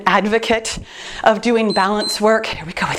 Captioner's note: timer beeps